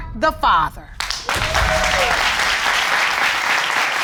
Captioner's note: audience applauding and cheering